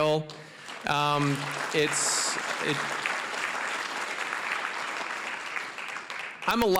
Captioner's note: applause